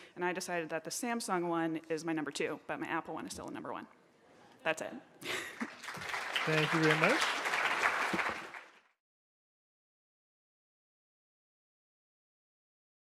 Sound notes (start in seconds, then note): 5.2 soft laugh; 5.5 audience applause